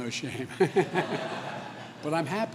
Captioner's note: laughter